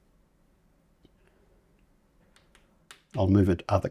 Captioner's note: silence